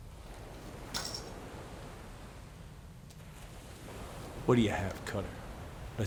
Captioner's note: watch hits table